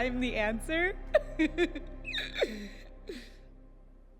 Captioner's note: giggles